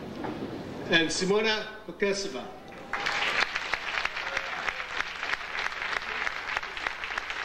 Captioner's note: audience applauding